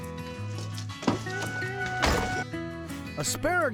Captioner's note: door opens, closes